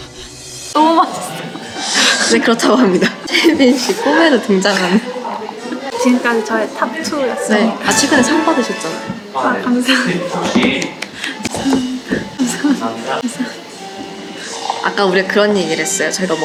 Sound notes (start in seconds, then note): 3.0 laughs